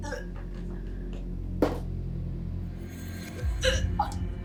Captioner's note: Lorraine retching